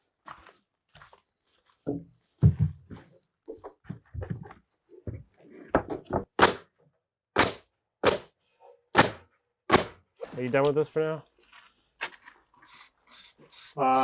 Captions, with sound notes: (power tool shooting) - Are you done with this for now?